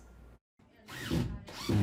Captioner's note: nat/drilling